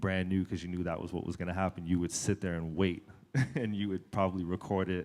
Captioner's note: chuckle